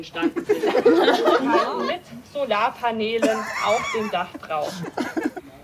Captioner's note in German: Gelächter; Gelächter